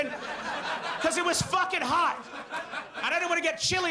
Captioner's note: audience laughs